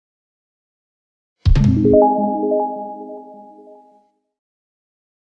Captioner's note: logo chiming